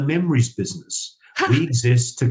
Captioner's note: chuckles